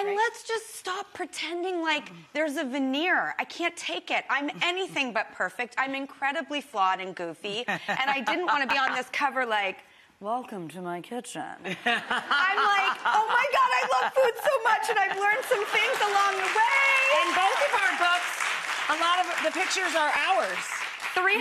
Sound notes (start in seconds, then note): 7.6 Rachael laughing; 11.7 Rachael laughing; 11.7 audience laughing; 15.3 audience clapping